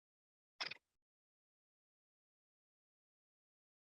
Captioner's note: mouse clicking